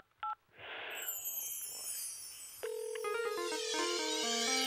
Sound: line ringing

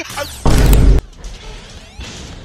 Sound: Vine Boom/Instagram Thud

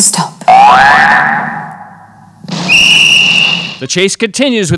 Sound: alarm rings

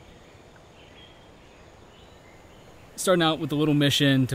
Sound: birds chirping

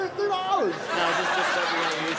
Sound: crowd laughs

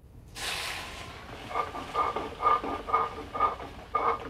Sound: sizzling

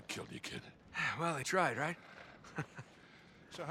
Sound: laughs

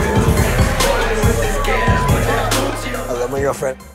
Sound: beep

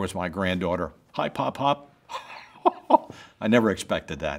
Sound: chuckles

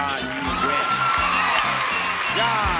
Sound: happy music; bell dinging

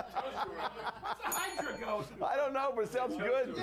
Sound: bell rings

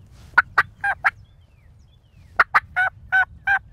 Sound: turkey call

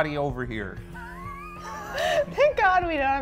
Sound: all laughing

